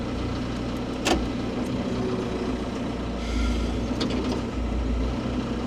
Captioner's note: machinery humming continues